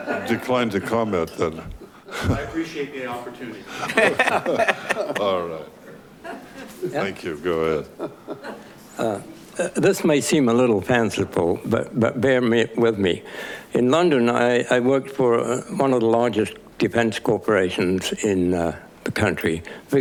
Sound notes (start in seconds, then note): 3.7 laughing